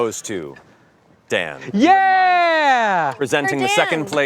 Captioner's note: cheers